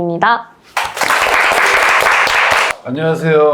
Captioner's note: applause